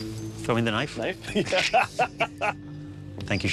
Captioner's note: laughing